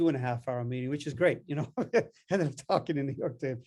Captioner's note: chuckles